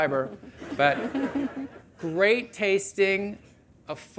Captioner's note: audience laughing